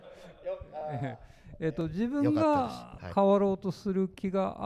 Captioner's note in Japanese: 会場から笑い